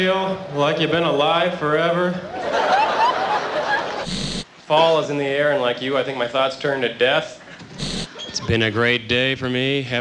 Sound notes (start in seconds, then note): 2.2 laughter